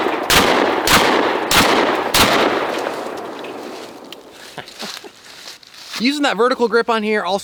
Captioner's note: gunshots; laughs